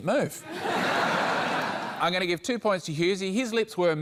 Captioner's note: laughter